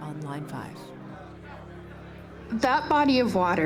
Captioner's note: people chattering